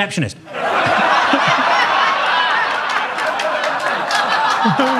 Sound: audience laughing

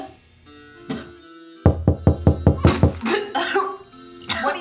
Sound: gagging and knocking in the background

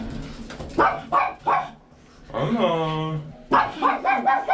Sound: Anna keeps barking nervously; barking

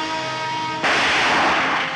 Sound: gunshot

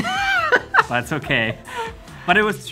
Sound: laughs

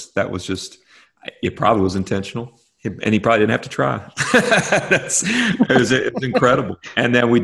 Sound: laughter

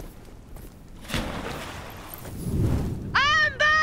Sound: another water splash

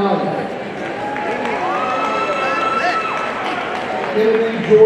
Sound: audience cheering and applauding

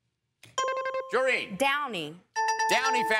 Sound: bell dings

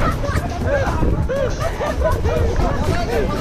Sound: is laughing hard

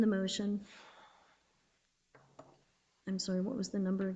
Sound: board member sighs

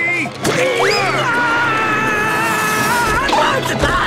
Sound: screaming

